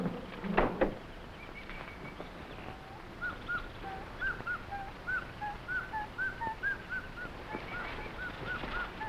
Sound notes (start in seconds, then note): 1.7 birds chirping; 1.7 plants rustling